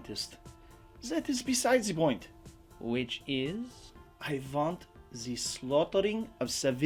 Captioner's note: none